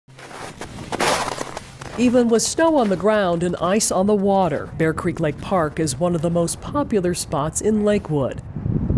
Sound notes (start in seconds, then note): 0.1 snow crunching